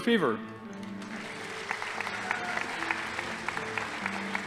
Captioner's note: audience applauding